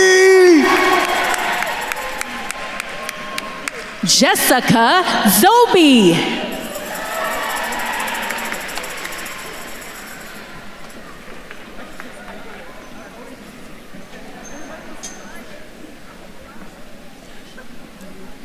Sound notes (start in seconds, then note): 0.8 attendees cheering and applauding; 7.2 attendees cheering; 11.2 attendees faintly chattering